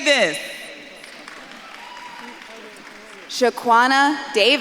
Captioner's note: audience claps and cheers